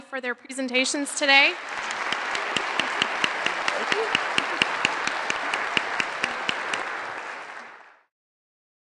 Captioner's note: applause